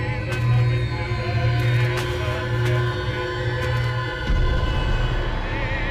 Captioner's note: videotape cassettes clattering; muffled 1920's music; soft intense music